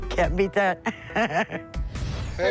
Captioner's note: laughs